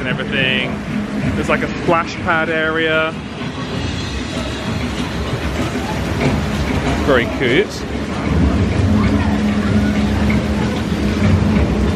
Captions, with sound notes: and everything. There's like a splash pad area. (upbeat music continues) (water splashing continues) Very cute. (upbeat music continues)